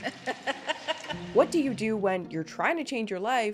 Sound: laugh echoes; soft tense music

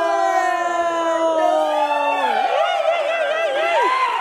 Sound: people cheering

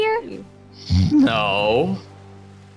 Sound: snoring

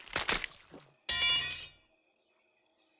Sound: crunching; tinging

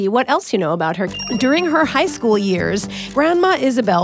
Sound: bell dings

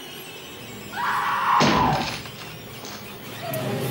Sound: she screams

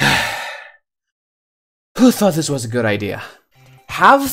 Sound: sigh

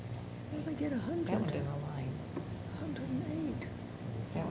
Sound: indistinct chatter

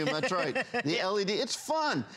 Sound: laughter

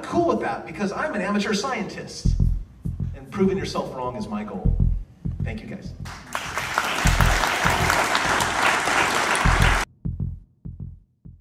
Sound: applause

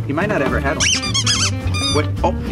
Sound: toy squeaking

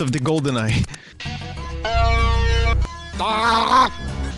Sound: russian impression; strange horn-like noises; makes a drowning animal impression

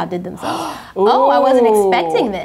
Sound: gasp

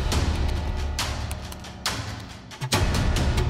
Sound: keys clacking

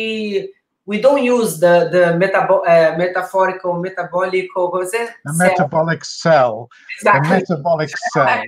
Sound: laughing

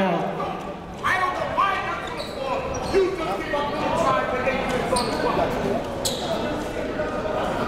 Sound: crowd talking; coaches yelling

